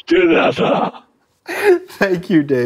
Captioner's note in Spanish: risas